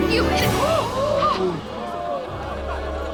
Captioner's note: gasping